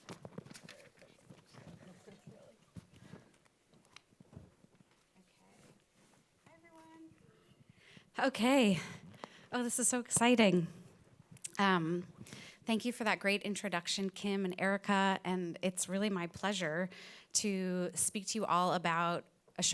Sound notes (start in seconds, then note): 0.7 presenters chattering